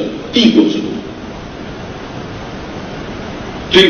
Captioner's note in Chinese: none